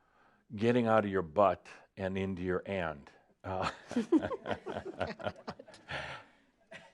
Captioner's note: some giggles